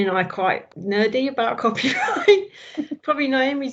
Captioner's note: laughs